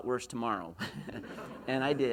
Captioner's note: laughs